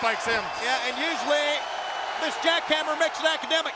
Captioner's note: crowd cheering